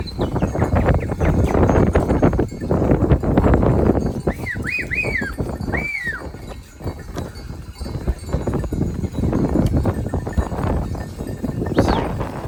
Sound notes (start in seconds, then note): 0.6 keeps whistling and laughing